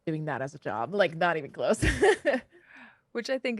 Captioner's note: laughs